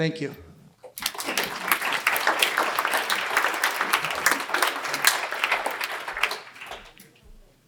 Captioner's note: applause